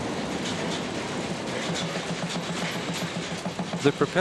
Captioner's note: bridge rattling